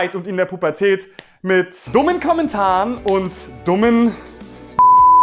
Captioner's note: Piep